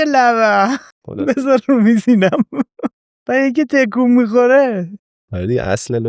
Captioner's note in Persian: خنده